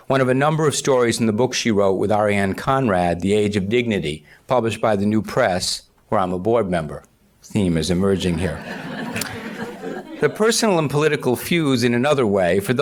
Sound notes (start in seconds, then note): 8.2 audience laughs